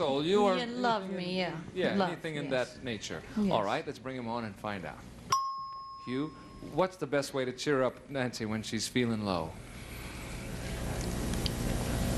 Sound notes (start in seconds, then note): 5.3 ding